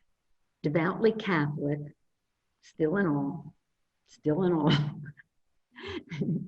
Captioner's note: laughs